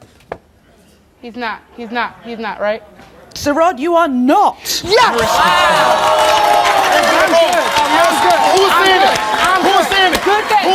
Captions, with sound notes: - He's not, he's not, he's not, right. - Sirrod you are not Mariska's father. (audience gasps) (yelling) - Who was saying it? - I'm good.